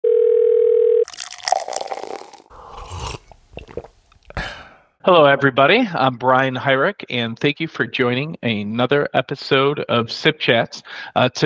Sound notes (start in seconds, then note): 0.0 phone ringing; 1.1 liquid swirling; 2.9 person slurping